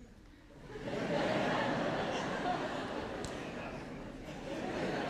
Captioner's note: audience laughs